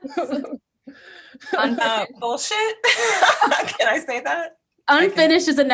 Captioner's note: laughs